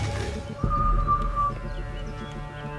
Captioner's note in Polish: gwizd strażnika